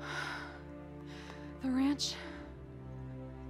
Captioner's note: Mabel sighs